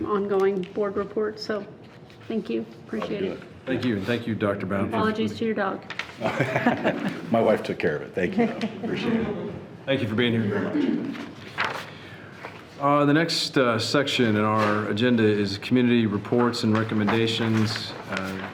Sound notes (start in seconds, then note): 6.2 laughing